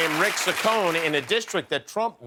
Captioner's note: cheers and applause